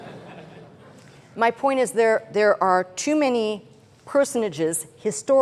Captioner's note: chuckling